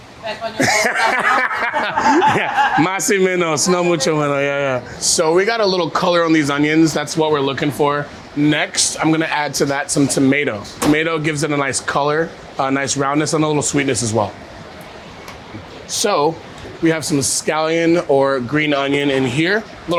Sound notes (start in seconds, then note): 0.2 person speaks foreign language; 0.4 people laughing; 3.0 speaks foreign language